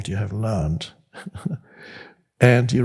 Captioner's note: Eckhart laughs